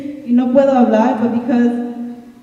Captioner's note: speaking in Spanish